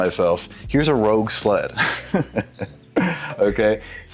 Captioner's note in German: lacht